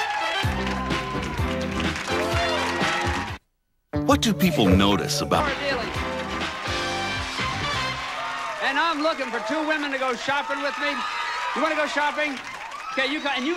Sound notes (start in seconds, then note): 1.5 audience applauding